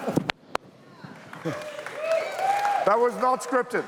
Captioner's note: laughter; cheers, applause